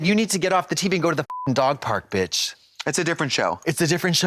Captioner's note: beep